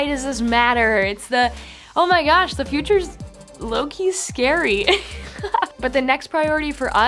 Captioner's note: laughs